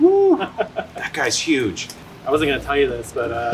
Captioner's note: laughs